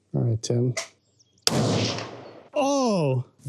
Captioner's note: gunshot